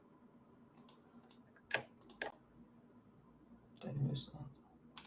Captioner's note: keyboard clacking